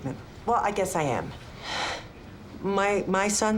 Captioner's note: sighs